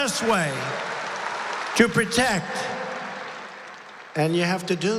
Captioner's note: applause